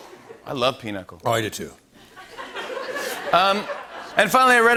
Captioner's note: laughter